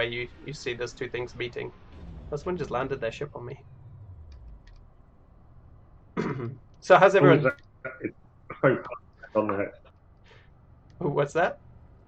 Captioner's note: broken speech